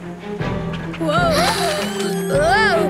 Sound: gasping

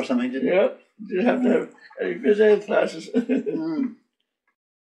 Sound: laughs

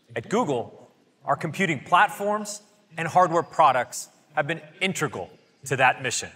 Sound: none

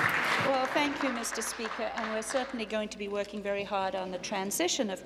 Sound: applause

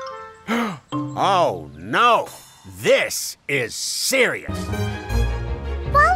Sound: Officer Freeze gasps

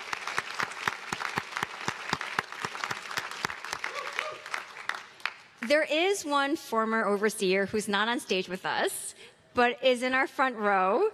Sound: applause

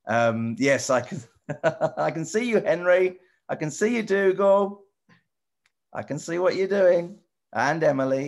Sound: Matt laughs

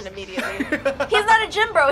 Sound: laughter

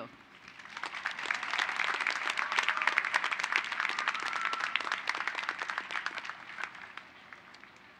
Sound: applause

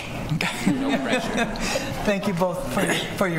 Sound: laughter

